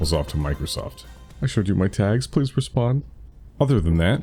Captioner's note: desperate begging